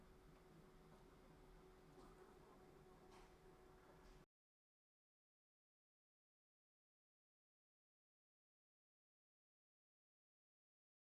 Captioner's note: silence